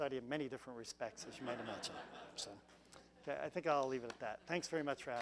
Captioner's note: laugh